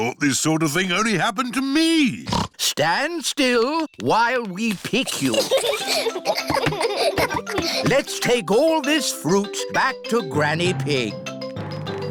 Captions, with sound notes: I thought this sort of thing only happened to me. (SNORTS) Stand still while we pick you. (CHILDREN GIGGLE) Let's take all this fruit back to Granny Pig.